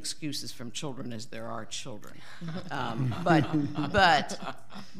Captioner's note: audience laughing